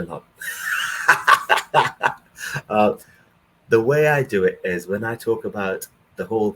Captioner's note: laughs